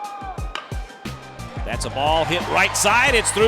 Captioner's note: voiceover